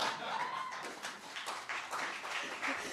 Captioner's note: laughter; applause